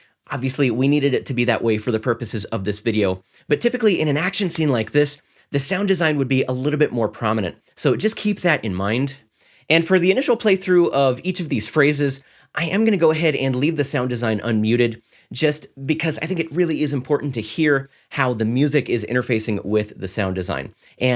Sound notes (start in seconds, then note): none